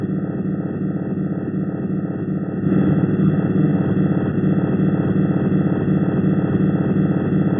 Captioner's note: strange sound pulsing